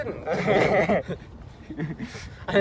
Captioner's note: laugh